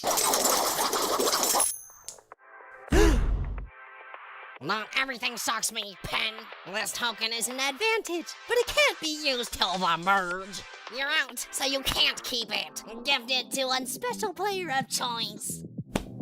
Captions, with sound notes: [GASP] Not everything shocks me. PIN! This token is an advantage, but it can’t be used till the merge! You’re out, so you can’t keep it! Gift it to one special player of choice!